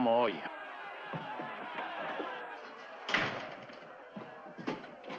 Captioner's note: townsfolk clamoring